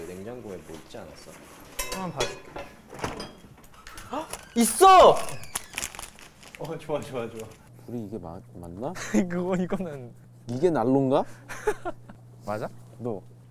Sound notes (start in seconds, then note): 11.4 laughing